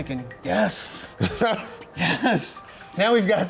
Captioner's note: laughs